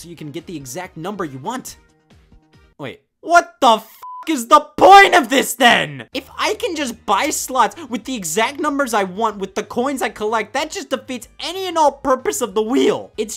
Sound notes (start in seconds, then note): 4.0 beep